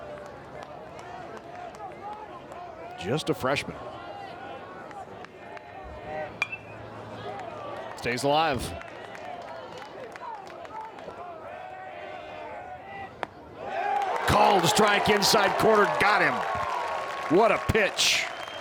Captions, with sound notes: Just a freshman. (bat dings) Stays alive. Call is a strike, inside corner, got him. What a pitch!